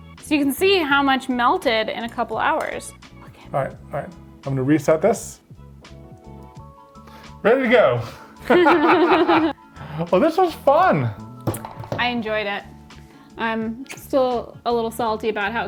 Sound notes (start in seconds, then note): 8.4 laughing